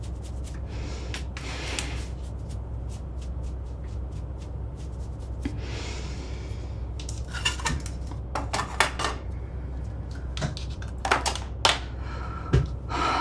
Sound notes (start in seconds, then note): 4.0 mother breathing deeply; 7.0 objects rattling; 10.5 mother sighs